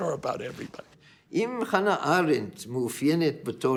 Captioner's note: in Hebrew